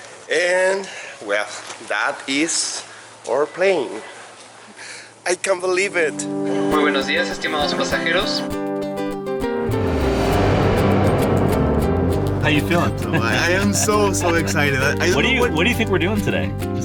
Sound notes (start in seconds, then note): 6.7 announcement in spanish